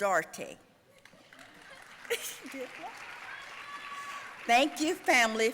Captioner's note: audience cheering and applauding